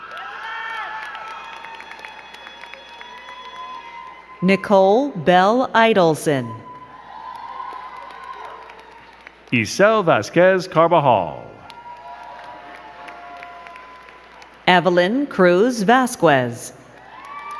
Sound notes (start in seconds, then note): 0.0 crowd cheering and clapping; 6.5 crowd cheering and clapping